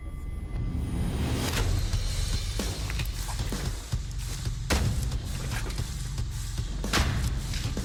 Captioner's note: impact sounds